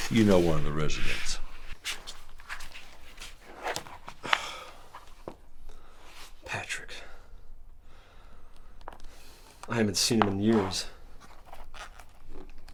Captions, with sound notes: - You know one of the residents. (Demetrius sighs) - Patrick. I haven't seen him in years.